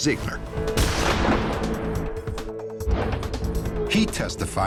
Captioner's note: gunshot